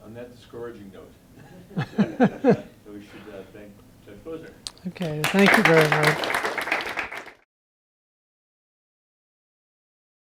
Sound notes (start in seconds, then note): 4.7 applause